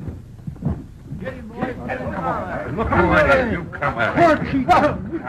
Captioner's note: men yell